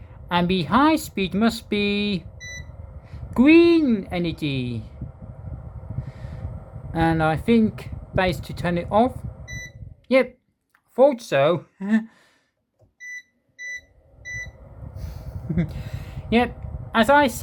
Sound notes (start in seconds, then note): 5.3 fan noise; 12.5 beeps sound & fan noise